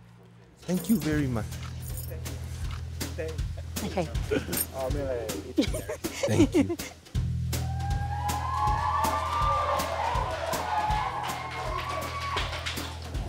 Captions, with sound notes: Thank you very much! Ok! (cheering and applause)